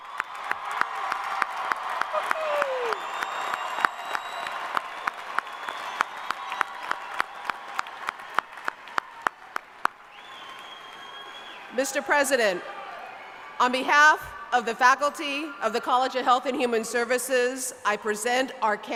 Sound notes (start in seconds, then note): 0.0 applause